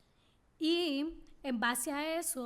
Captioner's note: speaking spanish